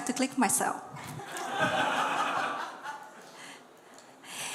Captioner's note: laughter